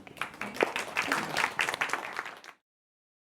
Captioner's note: applause